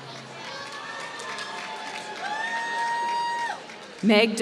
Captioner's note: applause